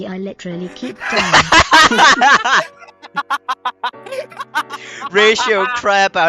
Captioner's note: laughter